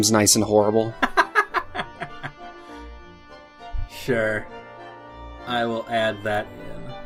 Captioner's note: laughs